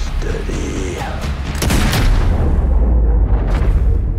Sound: gunshot

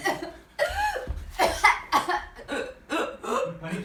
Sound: coughs

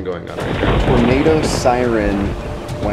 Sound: thunder clapping

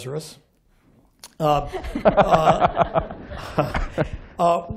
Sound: laughter

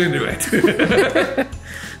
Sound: laughs

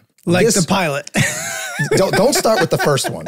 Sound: group laughing

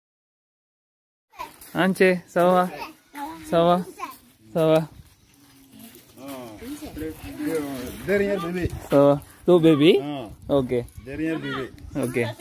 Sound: speaking in Foreign language

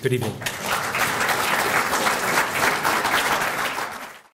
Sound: applause

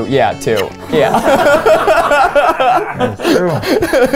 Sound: laughing

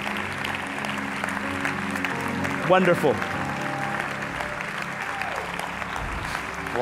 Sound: applause

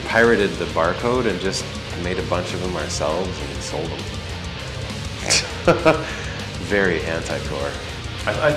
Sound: laughs

